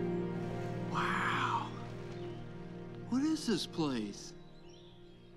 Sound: lightning

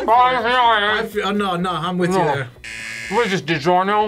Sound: laughs; buzzer

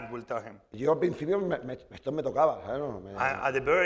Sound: speaking spanish

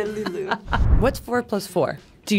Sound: laughs

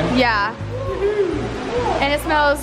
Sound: cheering

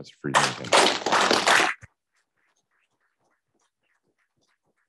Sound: class applauding

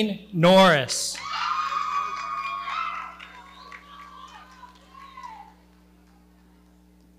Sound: audience cheering

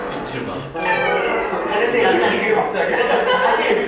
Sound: shivering

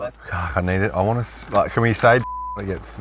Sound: beep

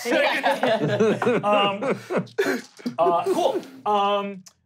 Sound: laughing

